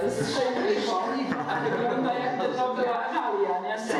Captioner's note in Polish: Straszny gwar!